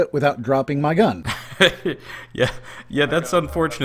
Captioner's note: laughs